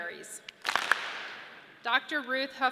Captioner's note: audience claps